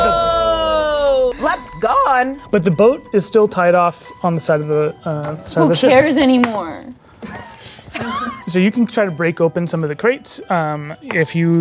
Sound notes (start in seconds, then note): 7.9 chuckling